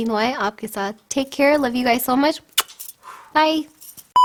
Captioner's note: kisses